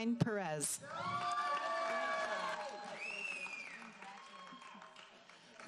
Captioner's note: audience applauding